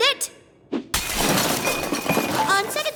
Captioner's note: glass breaking